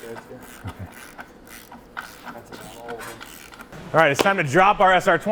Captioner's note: ratcheting sounds